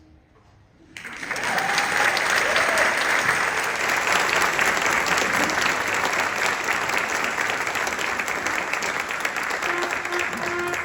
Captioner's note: applause